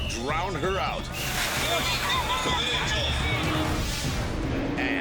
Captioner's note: water splashing